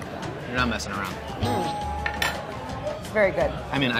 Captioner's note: bell dinging